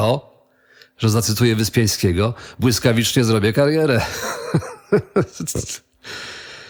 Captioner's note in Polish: śmiech